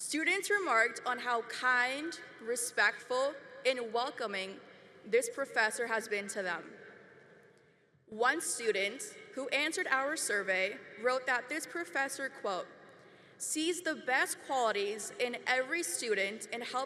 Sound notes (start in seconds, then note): none